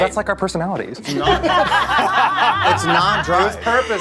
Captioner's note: all laughing